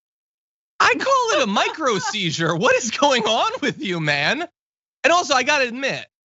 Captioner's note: laugh